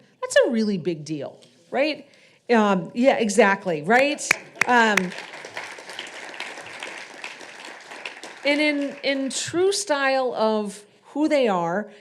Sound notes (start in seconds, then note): 4.0 audience applauding